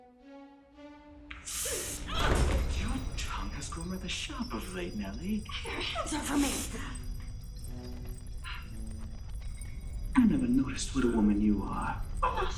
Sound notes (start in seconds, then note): 0.3 crying; 2.2 groaning